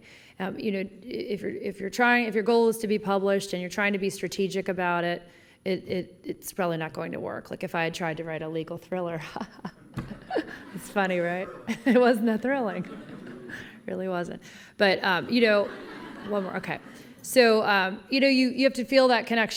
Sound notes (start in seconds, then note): 9.5 laughter; 15.2 laughter